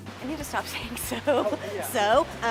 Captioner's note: laughing; laughs